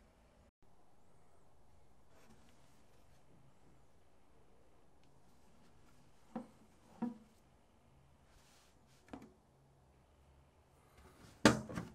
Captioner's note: folding